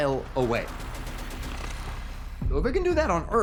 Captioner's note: thumping gunfire